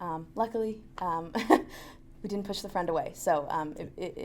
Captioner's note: laughs